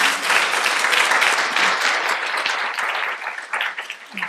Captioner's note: audience applauding